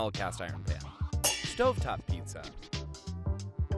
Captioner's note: metal clangs